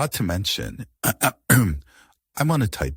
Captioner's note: clears throat